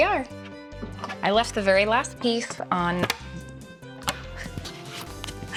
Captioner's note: snap